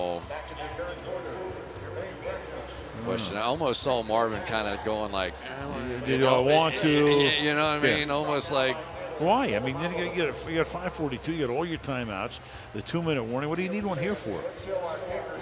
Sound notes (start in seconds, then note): 1.1 pa announcement